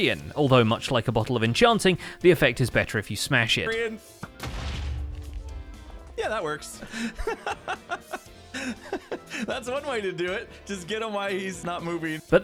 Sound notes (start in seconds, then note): 4.4 explostion; 6.8 laughing